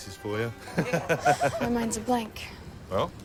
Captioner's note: laughs